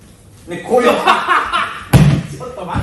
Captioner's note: laughs